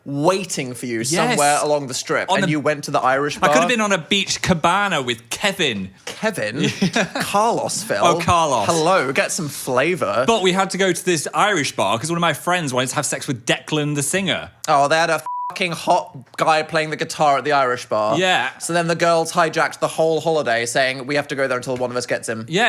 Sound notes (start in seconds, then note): 6.4 laughs; 15.2 beep